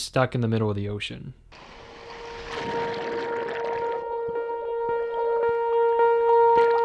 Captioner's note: water swooshes; distressed music